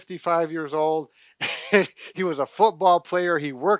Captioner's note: laughs